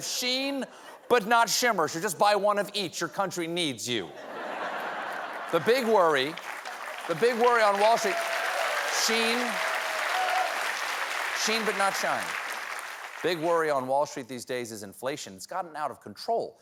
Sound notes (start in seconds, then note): 5.4 applause; 6.7 laughter